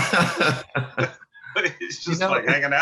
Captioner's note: laughter